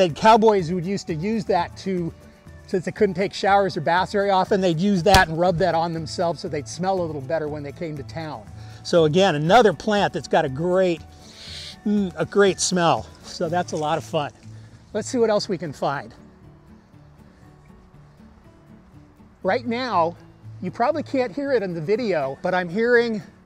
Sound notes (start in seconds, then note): 11.2 sniffs